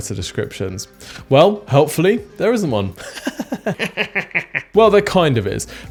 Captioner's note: laughs